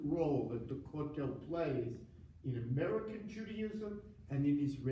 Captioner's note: foreign language